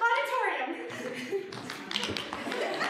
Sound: giggling; audience laughing

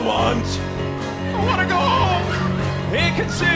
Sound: singing; speaking; singing

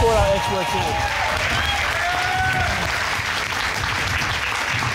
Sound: applause

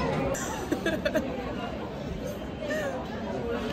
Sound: laughs

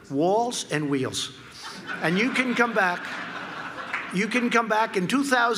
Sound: laughter

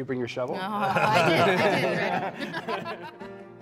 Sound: laughter

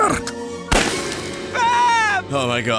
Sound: gunshot

